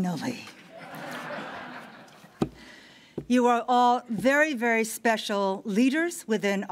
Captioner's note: laughter